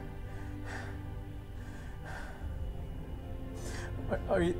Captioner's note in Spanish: Respirando profundamente